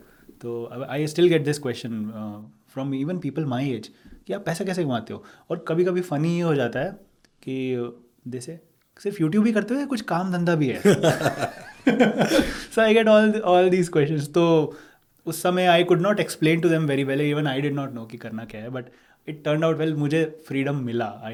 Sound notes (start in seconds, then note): 10.8 laughing